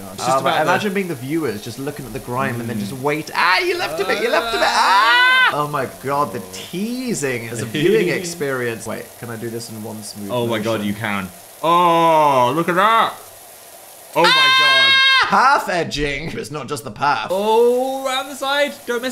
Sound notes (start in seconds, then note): 7.8 laughs; 14.2 screams